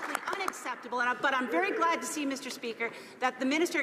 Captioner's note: some Applause